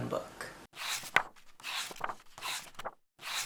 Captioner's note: pages turning